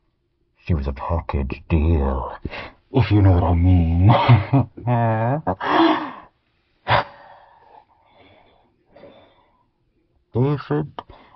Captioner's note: laughs